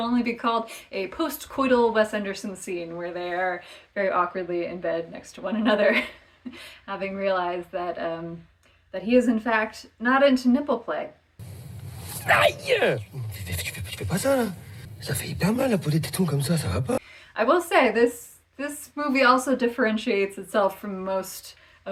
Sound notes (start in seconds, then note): 12.1 shrieks in pain; 13.1 angrily in French